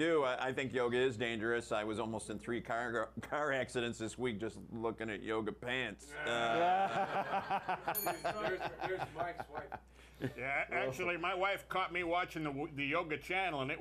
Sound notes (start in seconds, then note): 10.6 laughter; 11.0 bell rings